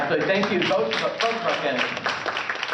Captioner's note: applause